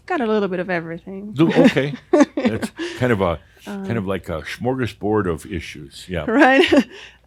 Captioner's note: she chuckles